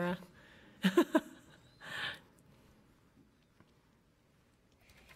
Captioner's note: laughing